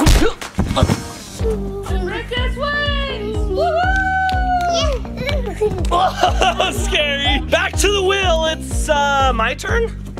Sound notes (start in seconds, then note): 3.6 cheering